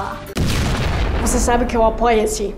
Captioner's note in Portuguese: explosão